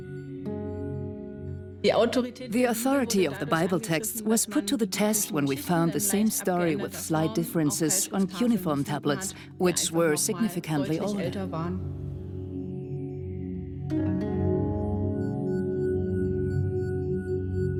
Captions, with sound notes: (in German) (dubbed in English) The Bible texts' authority was tested when we found the same story with slight differences on significantly older cuneiform tablets.